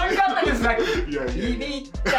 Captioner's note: laughs